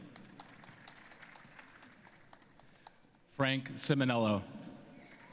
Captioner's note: cheering and applause